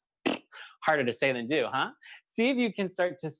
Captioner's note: blows raspberry